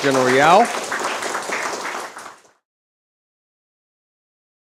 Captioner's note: applause